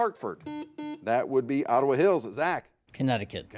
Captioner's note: buzzer beeps